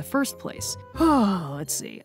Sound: sigh

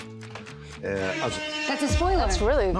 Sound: buzzer sounds

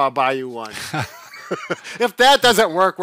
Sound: chuckles

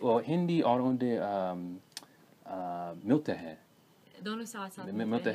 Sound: hindi

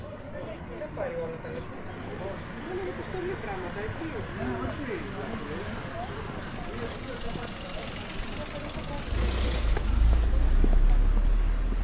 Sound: people chattering

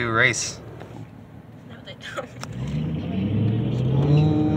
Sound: car engine roars

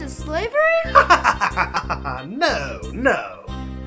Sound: laughing

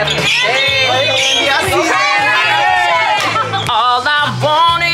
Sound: cast mates cheering

